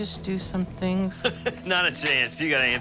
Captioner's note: chuckle